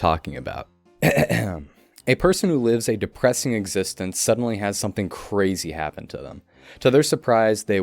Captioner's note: clears Throat